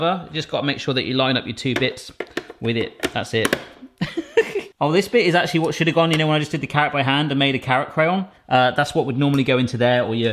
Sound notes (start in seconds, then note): 4.0 laughs